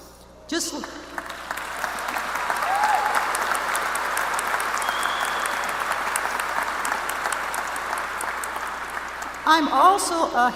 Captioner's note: applause